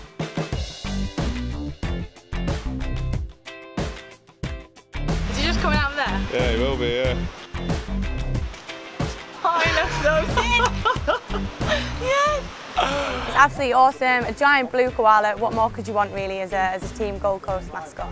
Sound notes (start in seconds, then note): 9.4 laughing